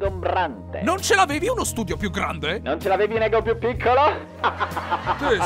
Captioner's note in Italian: risata